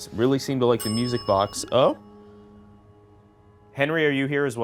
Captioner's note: bell dings